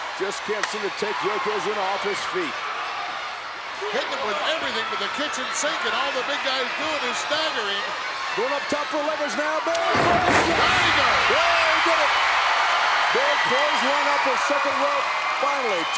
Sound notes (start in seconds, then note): 9.8 commentators exclaim; 10.1 crowd cheers